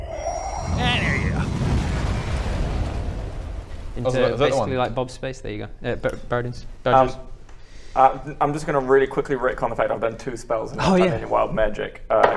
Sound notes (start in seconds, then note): 0.4 whoooooooshhh; 0.4 boom!; 0.4 crash!; 0.6 bang!